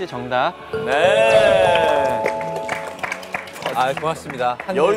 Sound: ding Dong

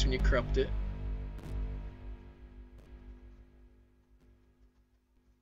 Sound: crackly farts as the intro sound fades out

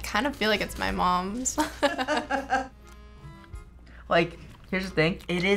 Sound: laughs

